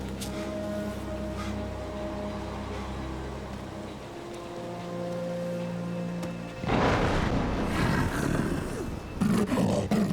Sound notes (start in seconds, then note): 5.7 growling